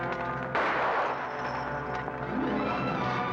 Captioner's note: dramatic music; gun fires; dramatic music